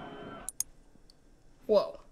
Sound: SFX: remote click

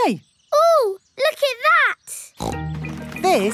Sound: snorts

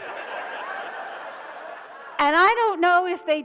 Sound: audience laughs

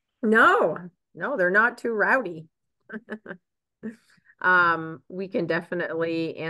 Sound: chuckles

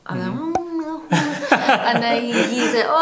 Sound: laughter

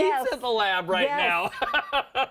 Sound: laughter

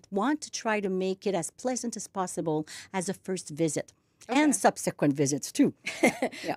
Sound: laughs

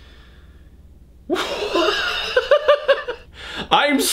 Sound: laughs

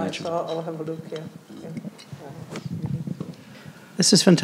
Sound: faintly speaking

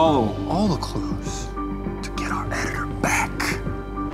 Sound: whispy whispy

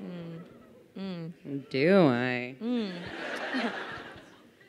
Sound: crowd laughing

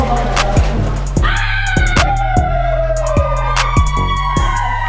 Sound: girls screaming

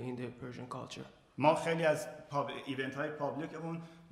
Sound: speaking in farsi

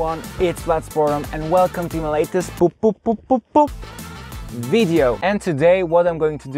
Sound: bup bup bup bup bup

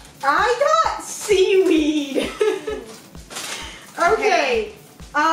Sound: laughing

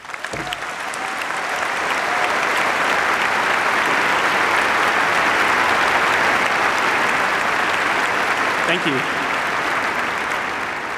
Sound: applause

